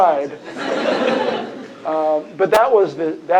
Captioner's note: laughter